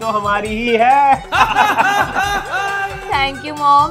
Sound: laughing

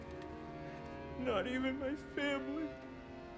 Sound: sobbing

